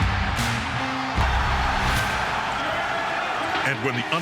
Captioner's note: upbeat music; cheering; applause